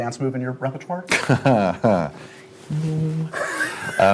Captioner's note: laughs